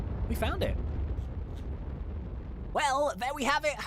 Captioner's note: rocket engine roaring